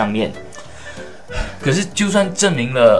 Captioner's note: sigh